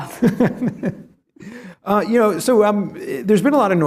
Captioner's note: laughs